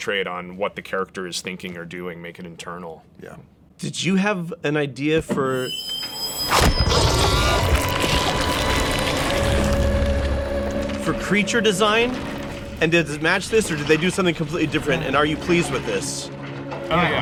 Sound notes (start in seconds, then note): 5.6 high pitched sound